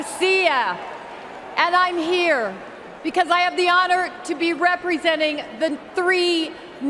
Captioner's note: cheers and applause; speaking non-English